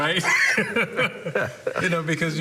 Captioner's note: laughter